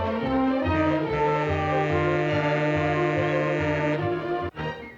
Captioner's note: monorail horn